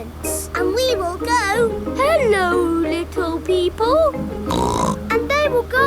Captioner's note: snorts